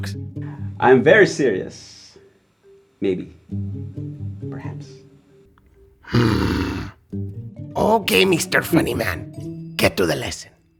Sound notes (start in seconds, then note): 6.0 grumbles